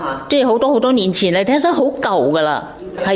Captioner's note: in Cantonese